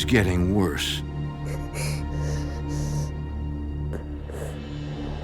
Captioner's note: sobbing